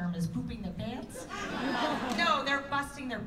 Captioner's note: laughter